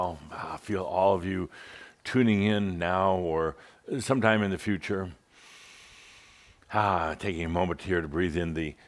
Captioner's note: Adamus takes a deep breath